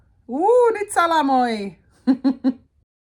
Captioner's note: laughter